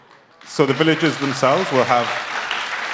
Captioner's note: applause